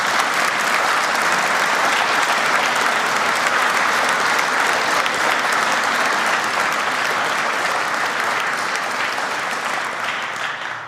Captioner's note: applause